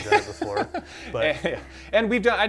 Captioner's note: laughs